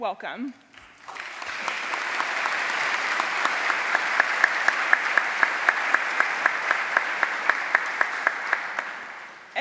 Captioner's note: applause